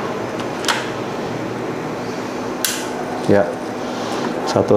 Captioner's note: installing damper sound